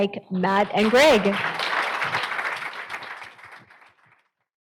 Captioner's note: applause